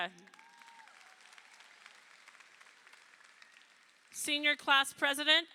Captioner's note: crowd applauding